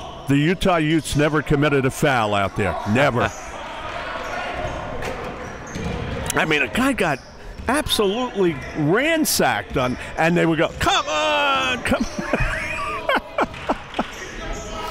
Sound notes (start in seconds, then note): 11.7 laughs